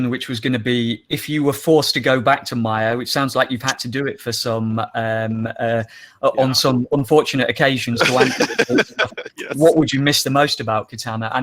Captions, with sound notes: which was gonna be if you were forced to go back to Maya which sounds like you've had to do it on some unfortunate occasions (laughs) what would you miss the most about Katana?